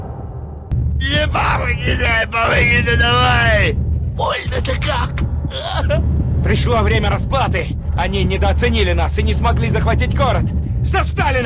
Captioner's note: soldiers Speaking Russian as he Breathes in a scary way